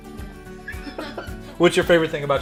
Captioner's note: laughing